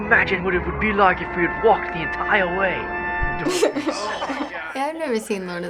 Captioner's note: chuckles